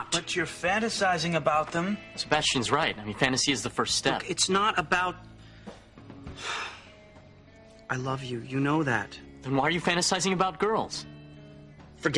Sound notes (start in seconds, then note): 6.2 sighs